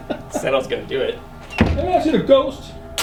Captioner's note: laughs